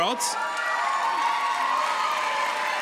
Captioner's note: audience cheers